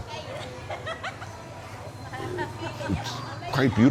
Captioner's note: woman laughs